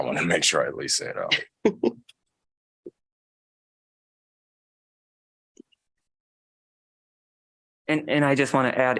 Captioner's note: laughter